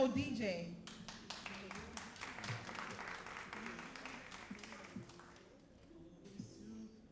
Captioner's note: all applauding